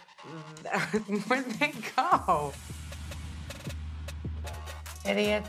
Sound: laughs

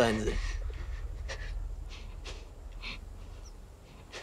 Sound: panting

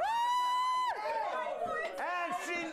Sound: audience cheers

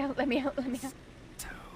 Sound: still whispering

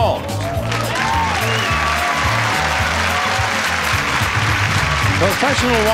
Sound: upbeat theme music; audience applauds

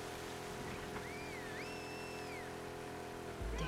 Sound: whistle

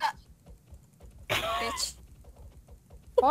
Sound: laughs

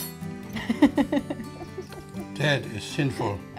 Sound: laughs

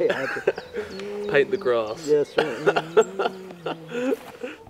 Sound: laughs

